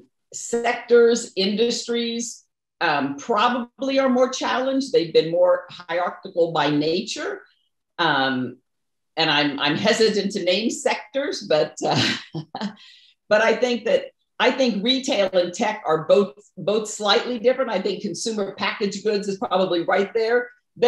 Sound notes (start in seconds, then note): 11.9 chuckles